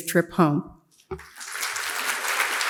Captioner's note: audience applauds